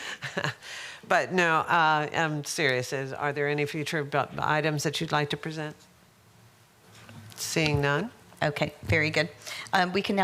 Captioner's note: laughter